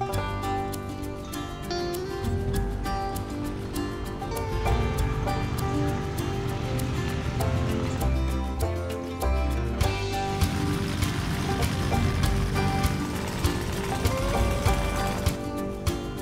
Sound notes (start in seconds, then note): 0.1 bright music; 5.3 airplane engine rumbling